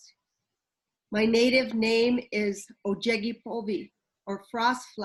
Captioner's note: speaks in foreign language